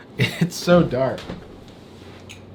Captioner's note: laughs